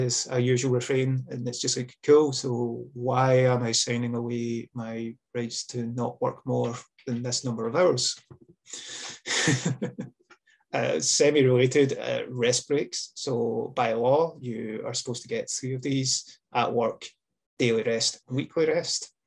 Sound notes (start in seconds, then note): 8.9 laughs